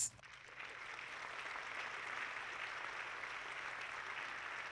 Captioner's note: audience clapping